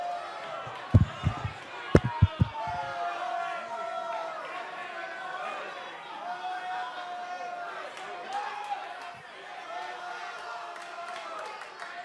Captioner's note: crowd cheering